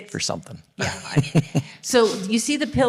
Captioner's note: audience Laughing